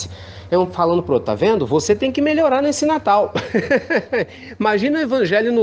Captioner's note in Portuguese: risos